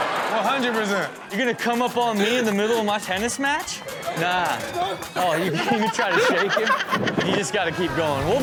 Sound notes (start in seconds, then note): 6.3 audience laughs